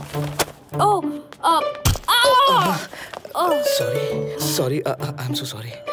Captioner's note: Screams